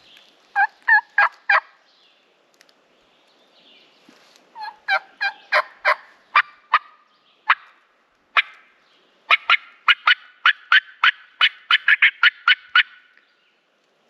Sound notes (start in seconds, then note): 0.7 imitates bird